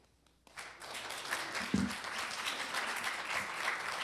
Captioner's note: applause